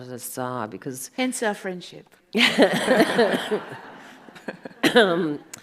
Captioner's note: audience laughs